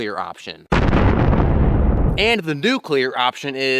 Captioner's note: gunshot